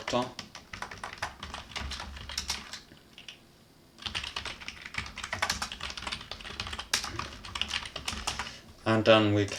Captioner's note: furious typing